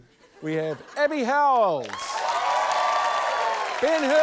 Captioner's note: cheering, applause